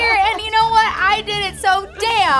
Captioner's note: laugh